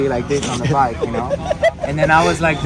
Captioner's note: laughs